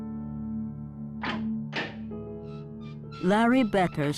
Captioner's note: latch opening